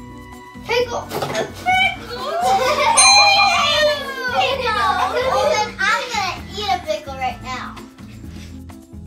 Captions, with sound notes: Pickle. A pickle? [Ding] I'm gonna eat a pickle right now.